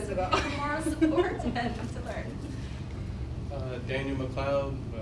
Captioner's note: laugh